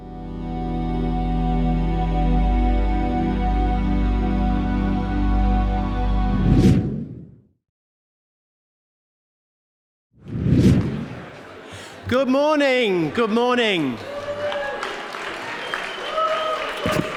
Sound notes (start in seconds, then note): 0.4 light airy music; 6.4 air swooshing; 10.2 air swooshing; 14.1 audience applauding